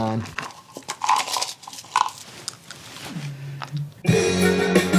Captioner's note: pills clattering; upbeat music